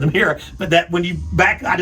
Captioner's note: chuckles